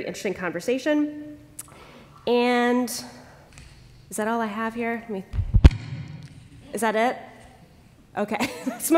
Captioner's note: laughter